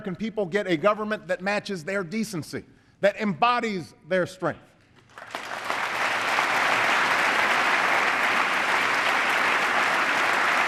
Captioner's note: applause